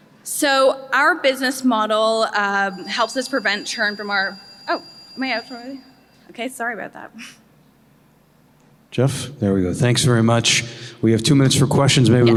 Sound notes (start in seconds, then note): 2.4 chime